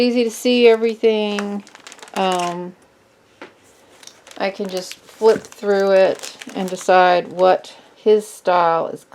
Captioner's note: flips binder pages